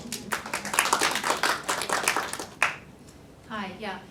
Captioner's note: audience applauding